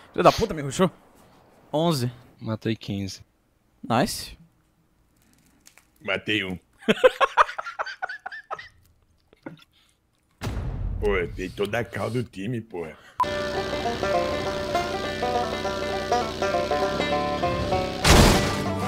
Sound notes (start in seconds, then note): 6.8 laugh; 13.2 country Music